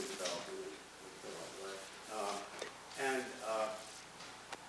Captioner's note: speaking off microphone